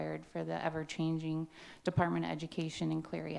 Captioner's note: none